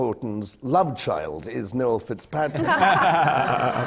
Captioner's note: laughter